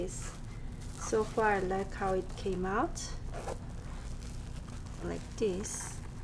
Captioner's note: zipper zipping